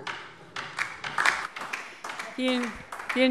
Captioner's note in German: Beifall DIE LINKE